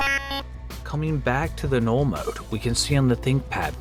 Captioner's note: glitching noise